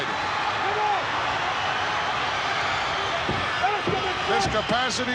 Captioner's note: audience applauding and cheering